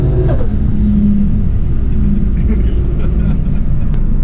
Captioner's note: laughing